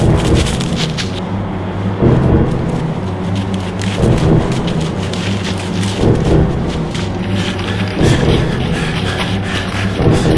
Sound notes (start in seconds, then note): 7.1 panting